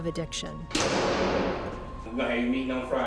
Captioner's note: large door slams